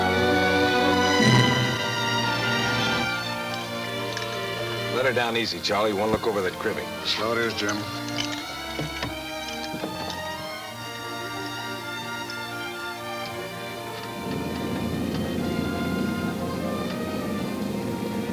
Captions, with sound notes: - Let her down easy, Charlie. I wanna look over that cribbing. - So it is, Jim. (rattling) (pleasant orchestra music)